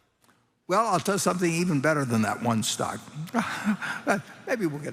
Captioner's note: laughter